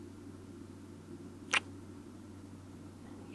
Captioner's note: kiss